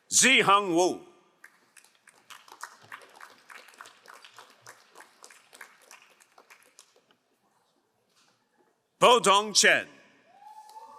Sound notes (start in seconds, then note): 1.5 crowd applauding; 10.7 crowd applauding